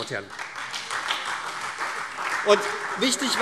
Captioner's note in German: Beifall SPD und Freie Demokraten